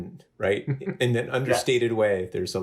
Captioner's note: laughs